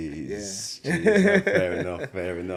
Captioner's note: laughs